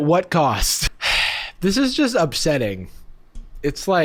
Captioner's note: sighing